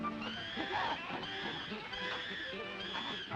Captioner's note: chimps screeching